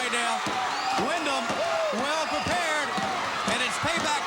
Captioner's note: blows thudding